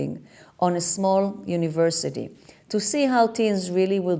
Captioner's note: none